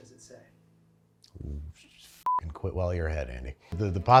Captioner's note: beep